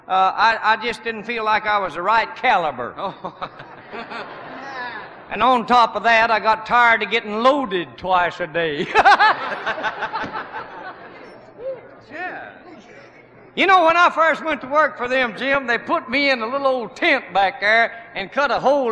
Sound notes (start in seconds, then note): 3.0 weak laughter; 9.4 laughs